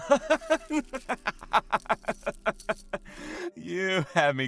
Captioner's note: laughs